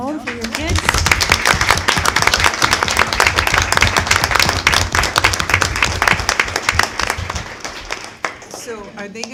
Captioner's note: applause